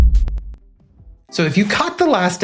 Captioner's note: whoosh